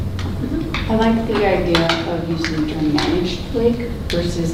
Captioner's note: rustling drowns out speaker